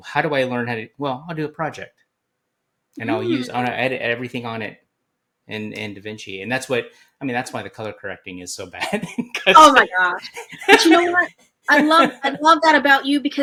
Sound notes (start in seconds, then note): 10.8 laughing